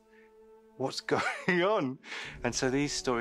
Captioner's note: laughs